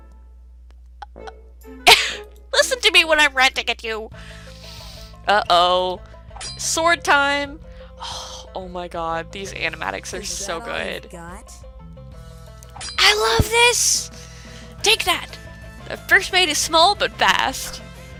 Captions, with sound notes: [Laughs] Listen to me when I'm ranting at you! [Sigh] Uh oh... Sword time! OHHH my God these animatics are so good! I love this! Take that! First mate is small but fast!